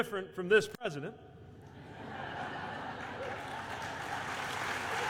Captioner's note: applause